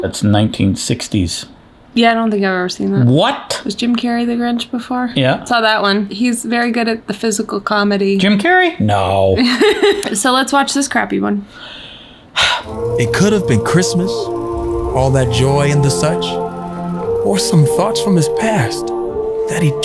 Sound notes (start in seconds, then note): 9.4 laughs; 11.6 sighs